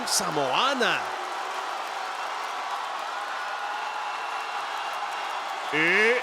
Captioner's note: applause